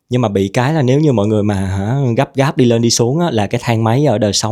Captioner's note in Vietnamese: none